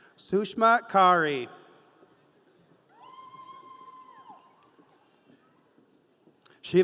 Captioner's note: audience cheering